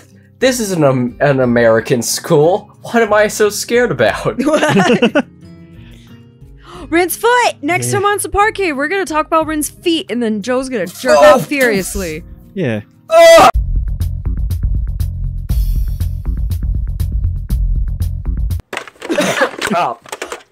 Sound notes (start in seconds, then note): 4.3 laugh; 10.8 having some sort of orgasm; 19.0 everyone chuckles